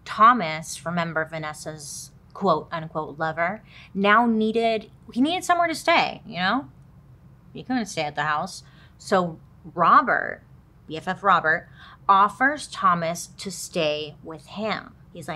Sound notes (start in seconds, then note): none